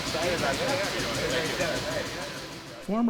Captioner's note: device pounding